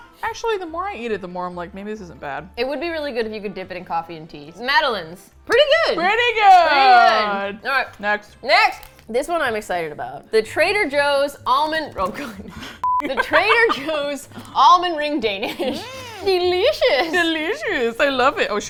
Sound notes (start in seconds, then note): 12.2 both laugh